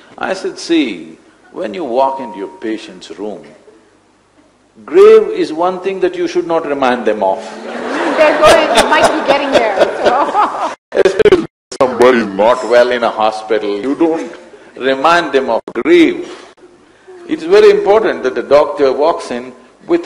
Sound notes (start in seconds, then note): 7.5 laughter; 10.6 laughs